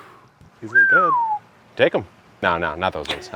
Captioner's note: whistling